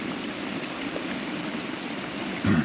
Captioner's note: water running